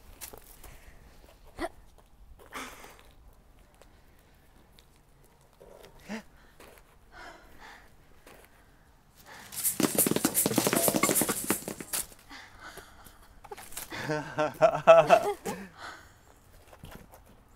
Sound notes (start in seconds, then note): 9.6 quenepas falling; 13.8 Abuela and Abuelo chuckling